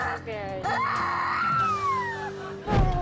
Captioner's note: screaming; audience laughing; air whoosh